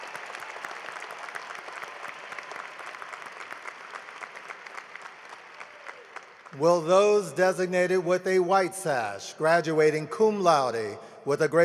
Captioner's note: cheering and applause